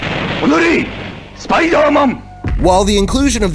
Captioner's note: speaking in Japanese